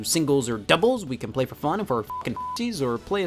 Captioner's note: beep